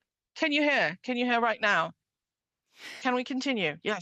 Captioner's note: speaking French